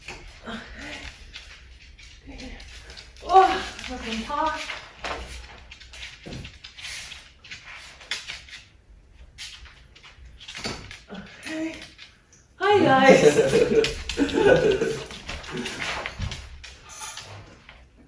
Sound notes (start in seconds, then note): 0.5 woman groans; 12.8 laughs